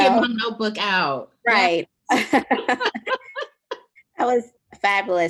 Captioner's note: laughing